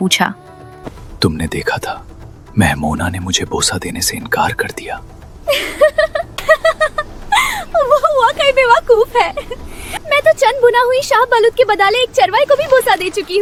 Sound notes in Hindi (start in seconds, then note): 5.4 हंसी